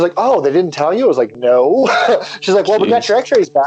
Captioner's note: laughs